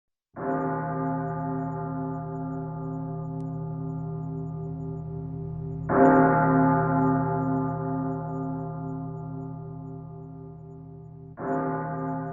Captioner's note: temple Bells